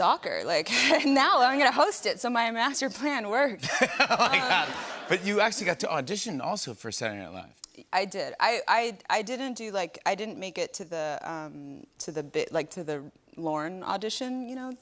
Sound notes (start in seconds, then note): 3.6 laughter